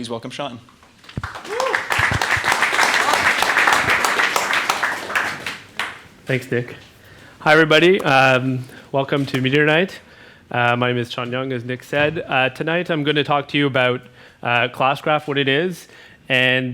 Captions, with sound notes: please welcome Shawn. (crowd applause) - Thanks, Nick. Hi everybody, welcome to Meteor Night. My name is Shawn Young as Nick said. Tonight I'm going to talk to you about Classcraft, what it is, and